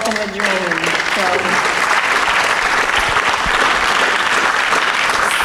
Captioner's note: applause